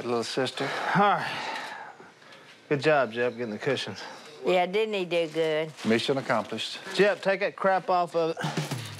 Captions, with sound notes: Alright, little sister. Alright. [sighs] Good job, Jep, getting the cushion. -Yeah, didn't he do good? -Mission accomplished. Jep, that crap off of it. [exhales]